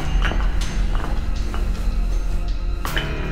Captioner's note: bricks clatter